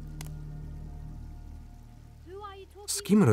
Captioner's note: branch cracks